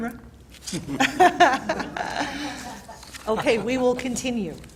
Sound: laughter

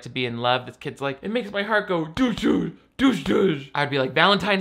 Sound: mimics heartbeat

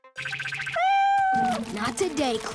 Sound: meowing

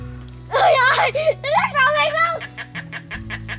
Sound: pipping

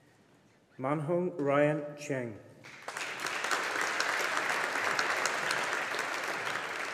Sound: audience applauding

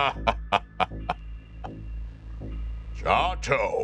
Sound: laughs

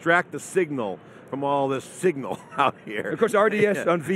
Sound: laughs

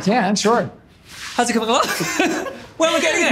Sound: laughs

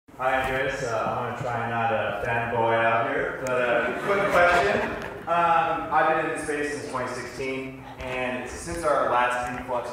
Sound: laughter

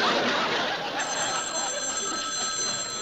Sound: phone rings

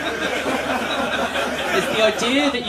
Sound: laughter

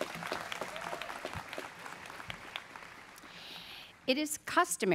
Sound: students clapping

